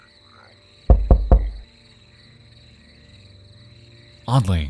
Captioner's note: door knocking